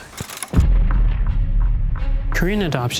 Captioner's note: explosion pounds